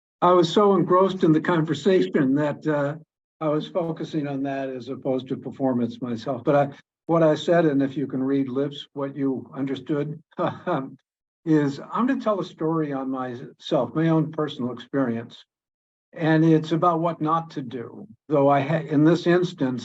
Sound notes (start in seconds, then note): 10.4 laughs